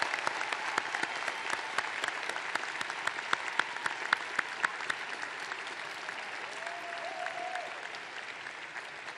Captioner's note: applause